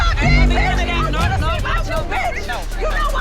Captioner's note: people shouting indistinct